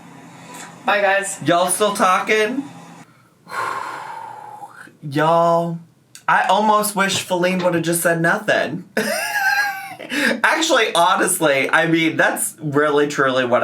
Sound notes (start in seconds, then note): 3.0 breathing deeply; 9.0 laughs